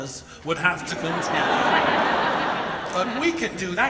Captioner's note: audience laughs